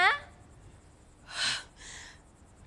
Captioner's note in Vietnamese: sigh